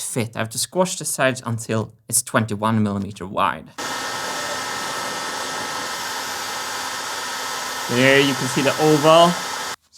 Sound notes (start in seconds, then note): 3.8 heat gun blowing; 8.7 heat gun still blowing